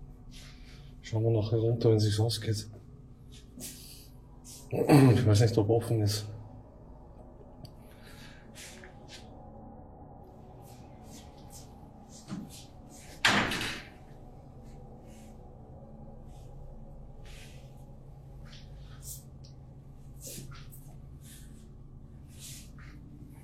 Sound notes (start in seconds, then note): 13.2 heavy door slamming; 13.8 mystical music